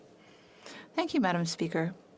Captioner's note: speaking French